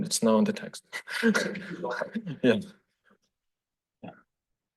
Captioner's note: laughs